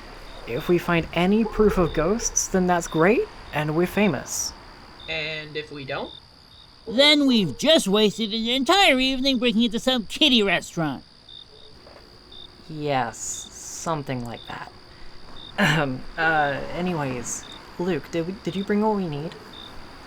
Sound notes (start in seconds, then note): 15.6 Teen 02 clears her throat